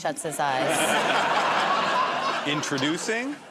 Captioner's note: laughter